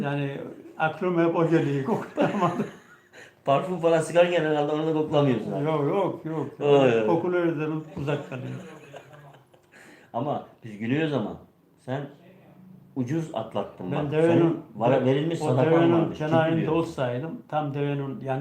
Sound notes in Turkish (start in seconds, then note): 8.0 kahkaha